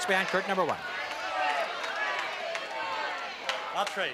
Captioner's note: audience Shouting